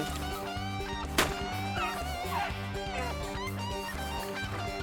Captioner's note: country rock music; gun fires